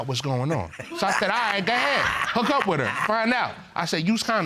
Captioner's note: chuckles